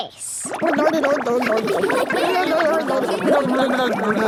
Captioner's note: children laughing